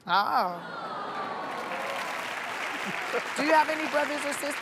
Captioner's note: applause